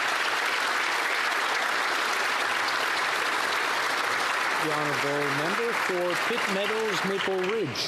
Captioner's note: applause